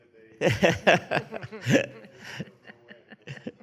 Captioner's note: laughs